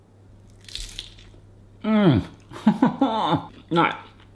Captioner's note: chip crunches